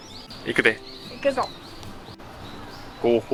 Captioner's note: laughs